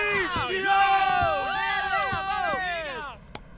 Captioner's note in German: Gejubel